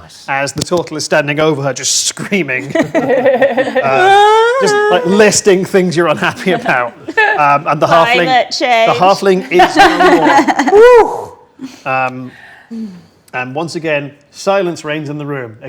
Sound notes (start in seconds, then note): 2.6 group laughs; 3.8 imitates wailing; 9.4 group laughs